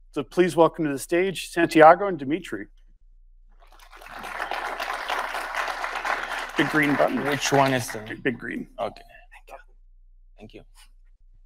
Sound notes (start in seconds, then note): 3.7 audience applauding